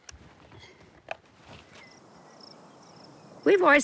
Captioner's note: insects chirping